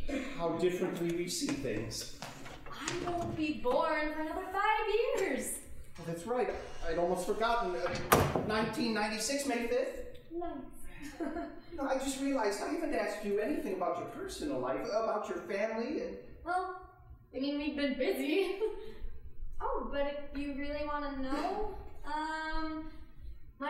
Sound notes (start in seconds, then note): 11.0 chuckling; 18.4 laughing